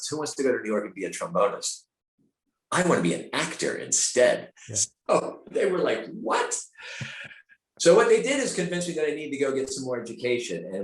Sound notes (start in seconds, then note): 5.3 laughing